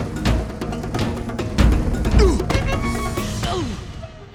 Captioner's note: grunting